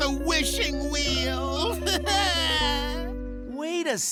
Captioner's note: crying